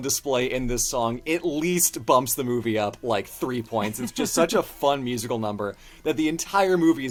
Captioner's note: laughs